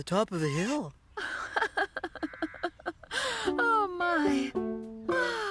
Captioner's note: chuckling